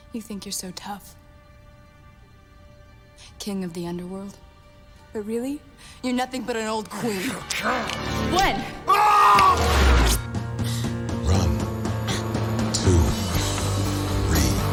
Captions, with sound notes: YOU THINK YOU'RE SO TOUGH, KING OF THE UNDERWORLD, BUT REALLY, YOU'RE NOTHING BUT AN OLD QUEEN. WHEN! ( shouting ) RUN, TWO, THREE.